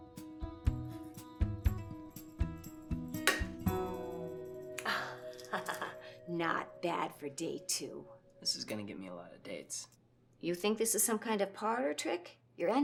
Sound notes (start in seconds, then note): 3.3 egg cracks